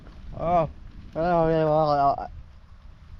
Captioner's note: repulsed sounds